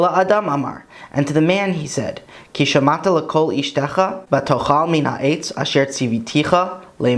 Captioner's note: Hebrew; Hebrew